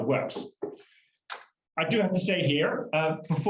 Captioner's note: keyboard keystrokes